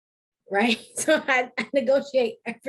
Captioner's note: laughs